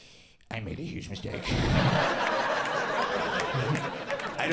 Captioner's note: audience laughing